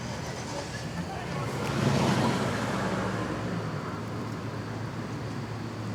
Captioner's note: traffic faintly rumbling